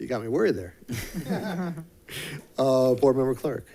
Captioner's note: laughing